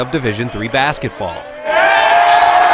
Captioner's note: players celebrating